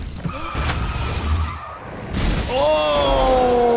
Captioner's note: tires screech; windscreen smashes; log crashes